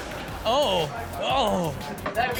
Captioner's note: spray hissing